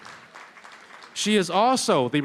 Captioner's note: applause